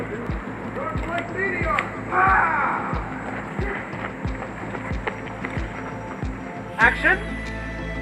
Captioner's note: shouting